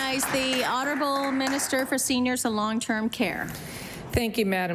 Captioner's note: applause